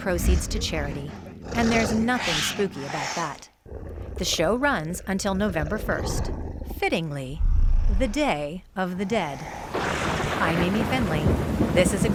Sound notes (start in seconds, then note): 9.6 thunder rumbling